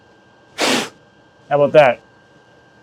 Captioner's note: blows